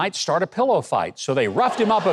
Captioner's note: audience laughs and claps